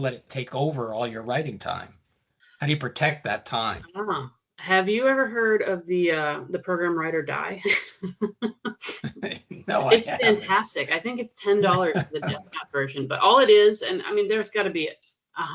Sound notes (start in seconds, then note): 9.0 chuckling